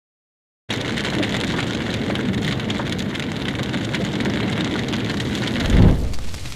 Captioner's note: fire sound